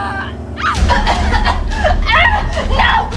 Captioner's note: Kody coughing